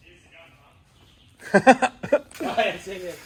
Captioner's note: laughs